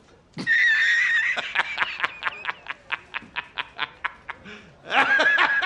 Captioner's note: man laughing loudly